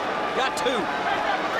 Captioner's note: crowd chatter